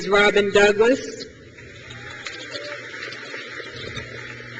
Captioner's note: crowd claps